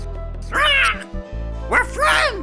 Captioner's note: צווחות